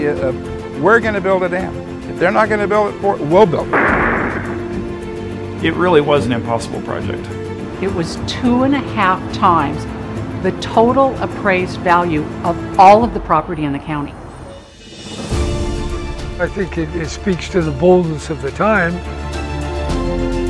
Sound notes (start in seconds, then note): 3.7 bombs banging